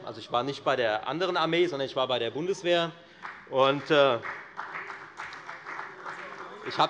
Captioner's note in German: Beifall bei der FDP und bei Abgeordneten der CDU